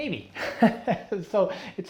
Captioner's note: chuckles